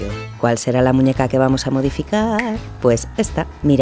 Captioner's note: snap